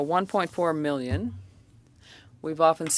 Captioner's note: speaking French